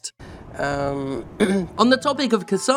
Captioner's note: clears throat